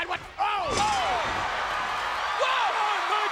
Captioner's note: bodies thud